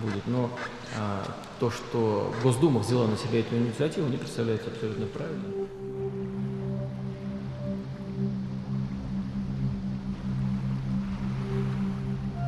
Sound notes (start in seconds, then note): 6.0 water lapping